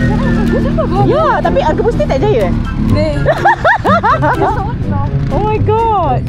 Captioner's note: laugh